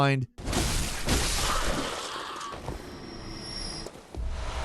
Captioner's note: hit crashes